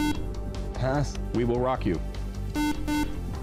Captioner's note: beep